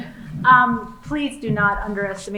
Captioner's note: laughing